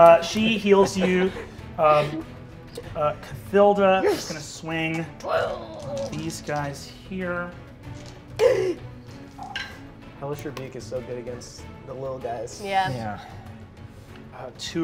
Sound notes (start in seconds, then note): 7.3 dice rolling